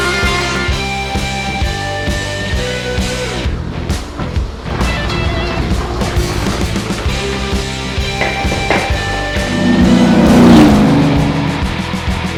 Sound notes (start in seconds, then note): 4.2 vacuum running; 10.1 car racing sound